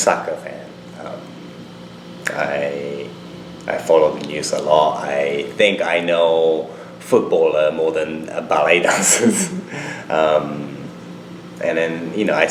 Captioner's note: laughs